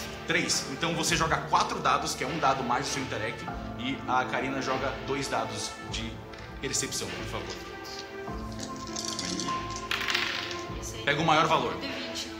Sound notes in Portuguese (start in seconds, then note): 8.5 dados mexendo